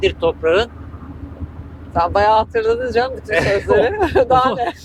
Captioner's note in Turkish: kahkaha